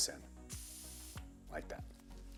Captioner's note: air rushing